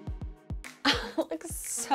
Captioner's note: laughing